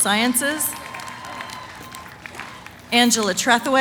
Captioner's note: cheering, applause